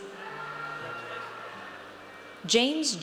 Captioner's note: audience cheers